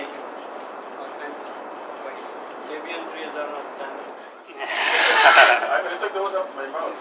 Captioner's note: konuşmalar ve gülüşmeler